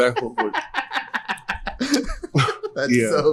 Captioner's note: laughs